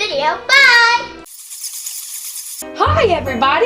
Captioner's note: bats flying